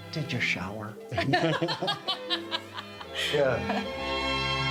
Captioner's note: group laughs cheerfully